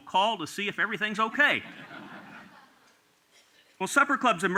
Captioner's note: laughter